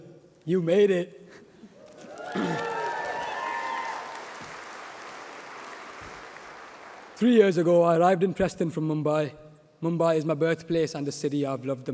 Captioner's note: applause